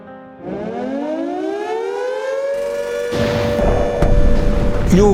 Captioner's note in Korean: 사이렌 소리